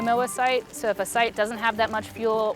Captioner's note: flames crackling